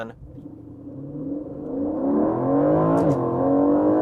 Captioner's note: engine racing